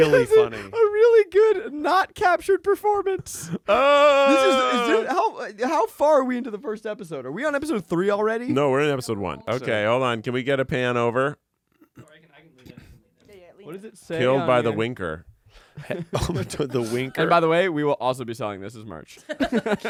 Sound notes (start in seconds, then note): 3.6 groans